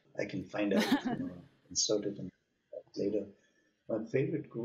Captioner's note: audio cutting out